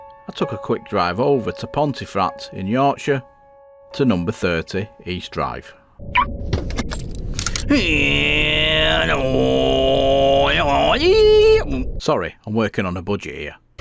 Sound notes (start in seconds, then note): 5.9 sound of engine made by vocals